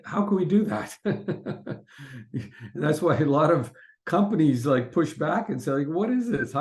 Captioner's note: laughs